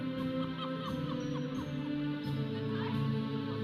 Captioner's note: audience member laughs; processional music